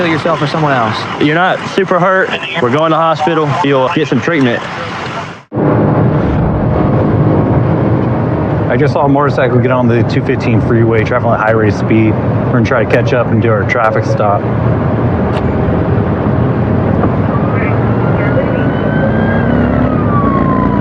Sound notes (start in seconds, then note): 5.4 engnginine rerevvvving